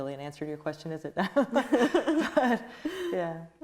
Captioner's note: both laughing